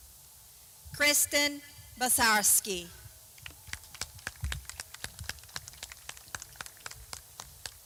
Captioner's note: clapping